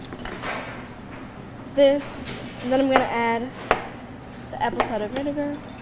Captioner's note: object thudding